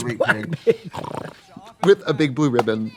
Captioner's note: Trixie snorts like a piggie